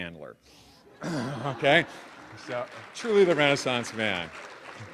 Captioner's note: audience laughing; applause